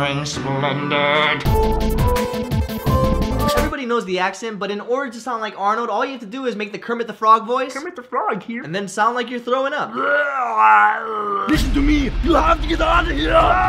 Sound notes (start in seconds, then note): 9.9 makes Kermit the frog + throwing up noises